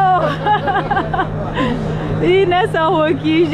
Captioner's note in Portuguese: Risos